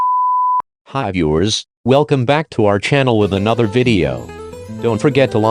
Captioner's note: sexy voice Narator